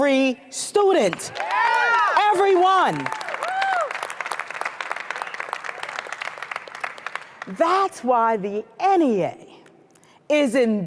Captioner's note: cheers & applause